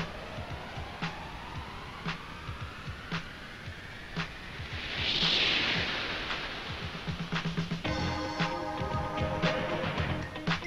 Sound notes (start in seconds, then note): 0.1 spooky music; 4.6 wind whooshing